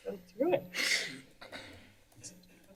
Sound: clears throat

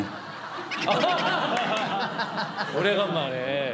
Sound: laughing

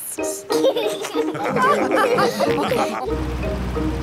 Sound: all laugh

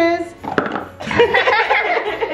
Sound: toy clangs into box; everyone laughing

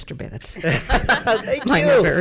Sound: people laughing; laughing

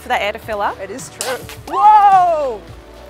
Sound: pop

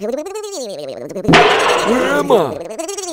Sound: slam

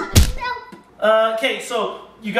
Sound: thuds

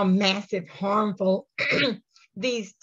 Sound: coughs

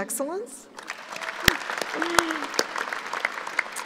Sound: applauding

